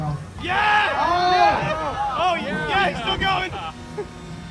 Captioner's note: crowd cheers!